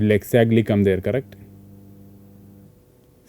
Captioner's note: single pulse